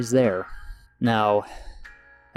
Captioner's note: sighs